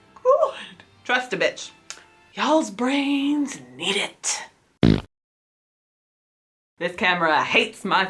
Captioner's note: fart noise